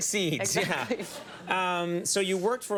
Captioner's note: laughter